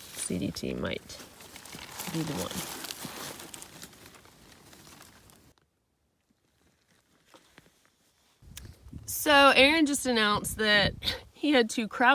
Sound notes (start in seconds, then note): none